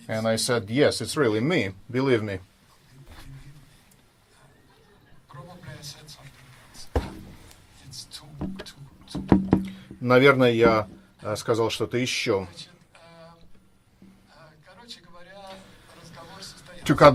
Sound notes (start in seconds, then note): 10.4 speaking in foreign language